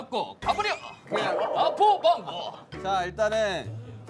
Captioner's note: kekeke